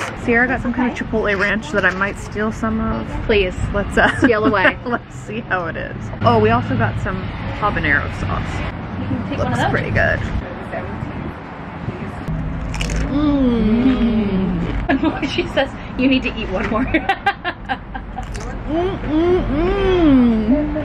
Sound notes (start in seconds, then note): 4.0 laughing; 12.4 loud crunching; 13.1 mumbling in delight; 16.9 laughing; 18.2 food crunching; 18.6 mumbling in delight